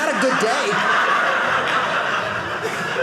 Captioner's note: audience laughing